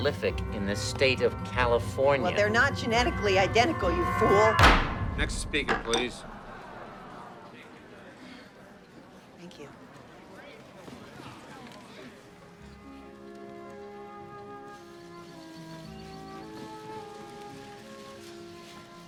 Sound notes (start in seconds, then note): 4.5 gavel bangs; 6.3 crowding grumbling; 14.0 languid music